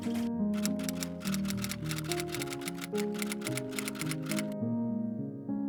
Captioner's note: typewriter keys